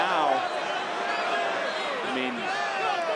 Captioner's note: crowd booing